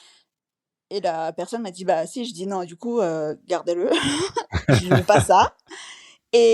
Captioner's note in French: rires